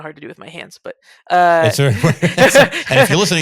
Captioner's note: laughs